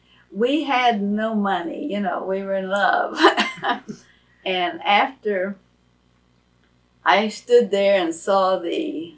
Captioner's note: laughs